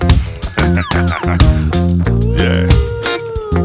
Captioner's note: laughs